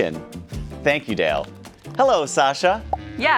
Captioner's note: light clapping